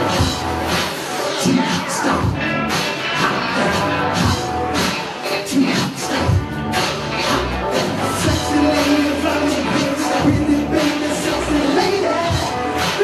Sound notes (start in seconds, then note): none